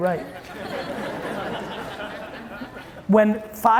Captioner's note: audience laughing